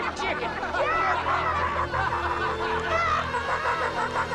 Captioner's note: crowd laughing; imitating chicken; tense music swells